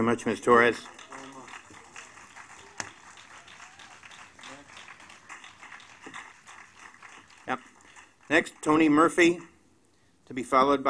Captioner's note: applause